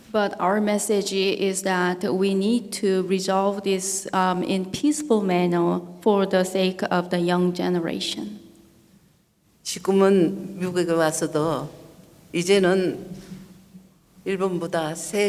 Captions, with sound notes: - But our message is that we need to resolve this in peaceful manner for the sake of the young generation. (speaking foreign language)